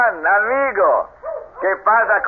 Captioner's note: speaking Spanish